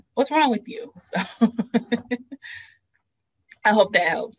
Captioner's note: laughs